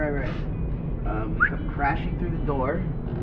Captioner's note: whistles sharply